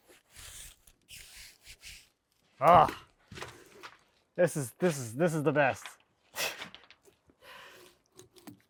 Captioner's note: none